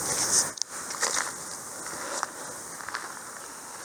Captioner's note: footsteps crunching on dirt